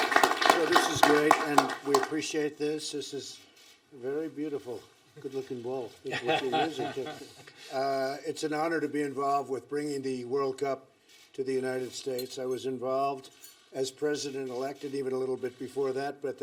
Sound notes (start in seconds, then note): 6.0 laughter